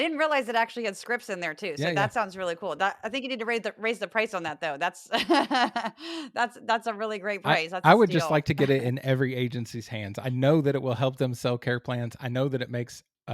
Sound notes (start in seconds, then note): 7.8 laugh